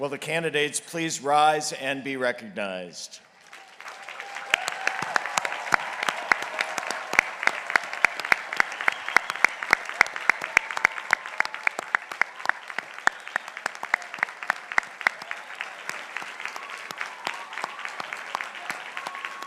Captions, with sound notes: Will the candidates please rise and be recognized? (crowd applauding)